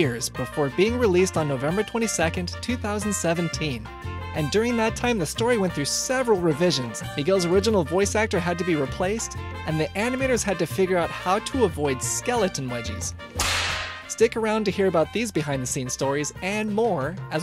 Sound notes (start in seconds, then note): 13.4 whiplash sound effect